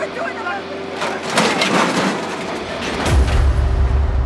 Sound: trash clatters

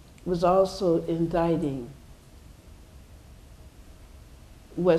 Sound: none

